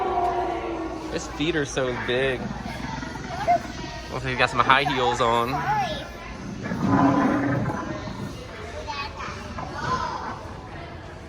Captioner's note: haha